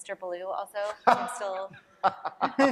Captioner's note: laughter